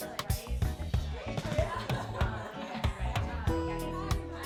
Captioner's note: crowd chatting